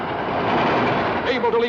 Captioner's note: train chugging